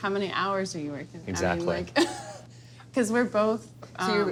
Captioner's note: laughs